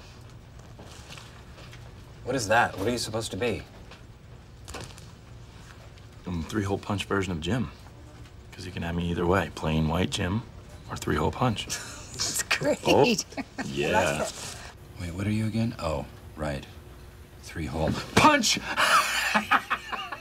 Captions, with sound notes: -What is that? What are you supposed to be? -I'm a three-hole punch version of Jim. 'Cause you can have me either way -- plain white Jim or three-hole punch. -[ Chuckles ] That's great. I like it. -Yeah. -Wait, what are you again? Oh, right. Three-hole punch! [ Laughs ]